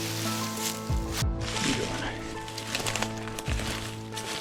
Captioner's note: leaves crunching